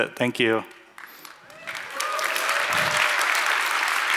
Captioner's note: applause